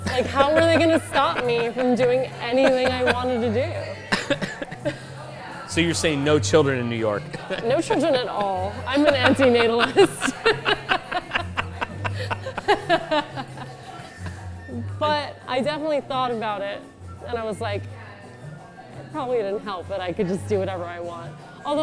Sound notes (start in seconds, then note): 10.5 laughs